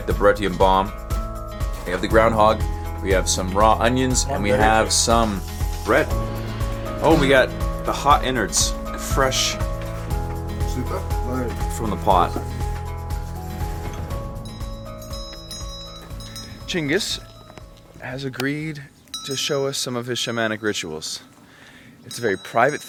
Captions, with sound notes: Yes, last night the Buryatian bomb. We have the groundhog, we have some raw onions and we have some bread. Oh we get the hot innards, fresh... From the pot. (gentle music) (bell chiming) Chingis has agreed to show us some of his shamanic rituals.